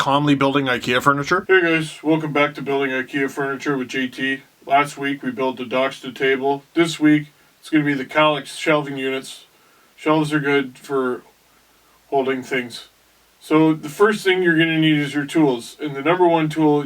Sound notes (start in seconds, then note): none